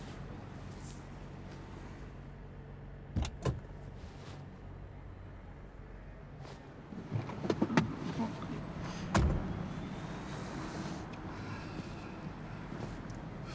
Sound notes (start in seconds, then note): 3.2 car door opens; 8.9 car door closes